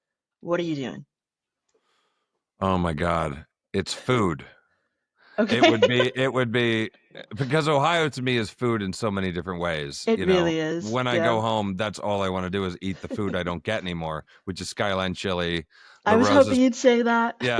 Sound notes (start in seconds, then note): 5.4 laughter